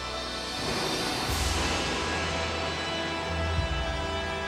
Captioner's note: lightning roaring